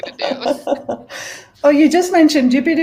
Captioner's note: laughing